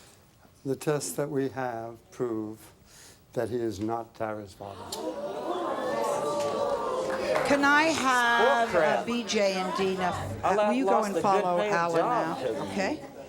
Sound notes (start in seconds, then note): 4.7 audience gasps